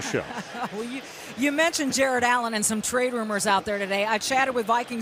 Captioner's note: chuckles